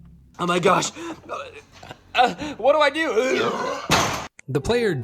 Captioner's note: burps loudly, bangs head on garage door